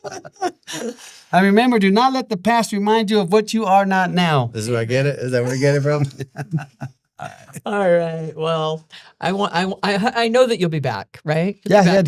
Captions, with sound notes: (laughing) And remember do not let the past remind you of what you are not now. Is that where I get it from? All right. Well, I know that you'll be back, right?